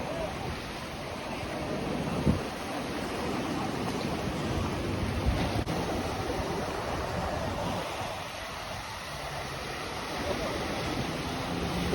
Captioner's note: ocean waves